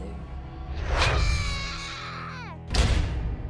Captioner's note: yelling